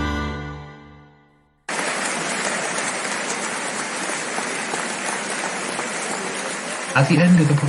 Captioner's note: abrupt, loud applause from the crowd